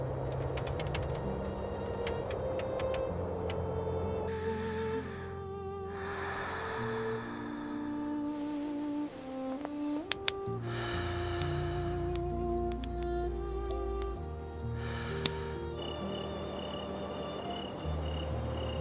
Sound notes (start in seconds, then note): 0.6 slow breathing in the dark bunks